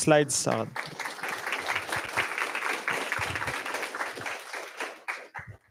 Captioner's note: applause